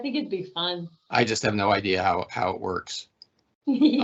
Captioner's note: laughing